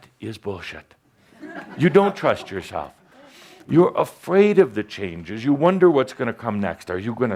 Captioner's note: laughter